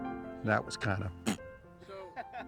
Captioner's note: laughing; pfft